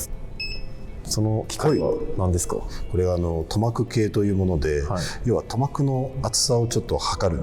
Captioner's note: breath